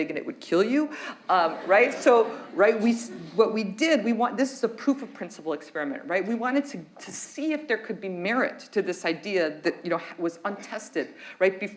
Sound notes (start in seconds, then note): 1.4 audience laughs